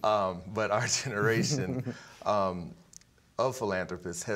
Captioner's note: both chuckling